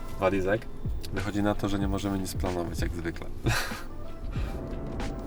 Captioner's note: laughs